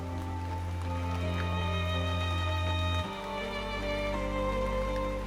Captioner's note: rain pattering